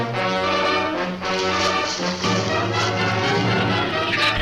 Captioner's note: leaves rustle; shrews chatter